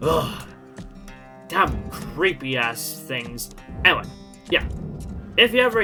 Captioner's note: shiver